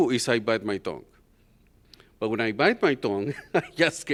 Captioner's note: laughter